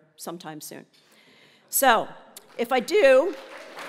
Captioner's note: applause